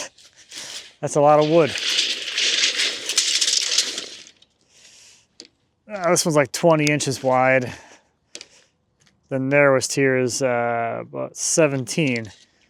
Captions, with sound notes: That's a lot of wood. (tape measure rattling) This one's like 20 inches wide. Then there was tears about 17.